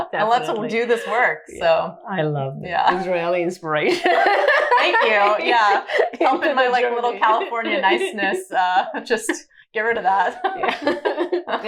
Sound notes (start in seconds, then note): 4.0 both laughing